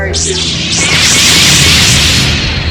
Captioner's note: blade ignite in unison